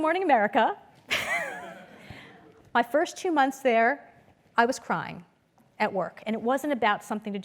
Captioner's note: laugh